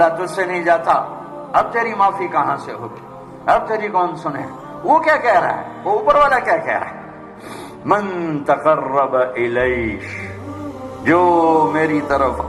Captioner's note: Arabic